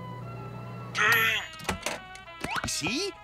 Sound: microwave

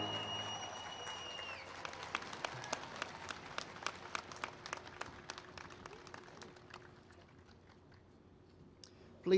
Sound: applause

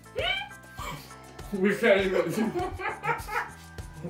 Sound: laughing

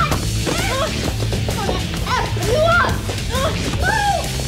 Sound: grunts

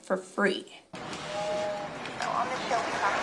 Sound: train whistles

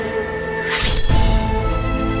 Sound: dagger clanking

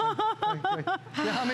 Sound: laughter

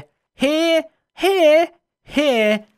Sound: weirdly high pitched

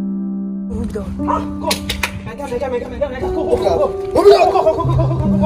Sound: men speaking foreign language

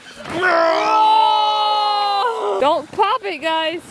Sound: roaring

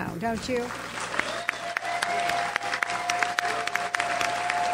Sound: audience applauds

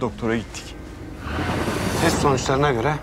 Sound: transition sound

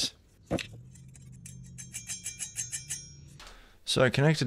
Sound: metal clinging

